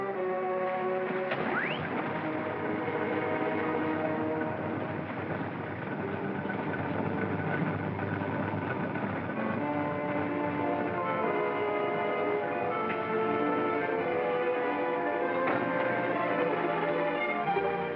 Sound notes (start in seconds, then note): 0.0 dramatic music; 1.4 ominous music; 1.4 sound of machinery; 11.5 ominous music